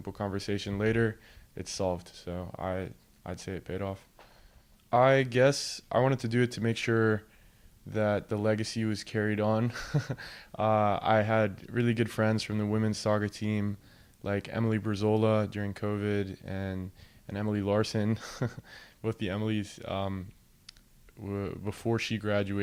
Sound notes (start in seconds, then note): 9.8 laughs